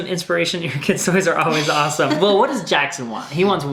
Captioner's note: laughing